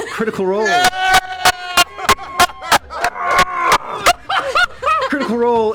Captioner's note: cheering